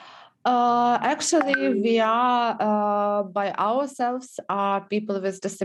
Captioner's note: on phone